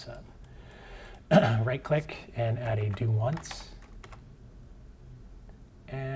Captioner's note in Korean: 기침